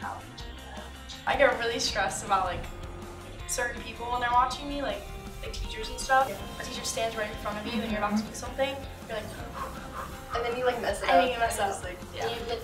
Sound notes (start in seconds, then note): 8.7 mimics nervous, fast breathing